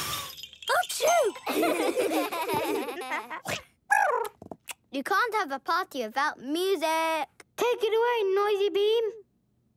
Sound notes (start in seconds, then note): 0.0 giggles; 1.3 laughing; 3.3 chirping